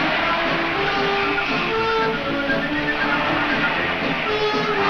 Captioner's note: whistle blows